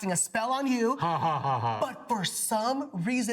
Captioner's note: laughs